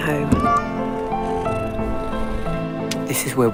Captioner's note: cat meowing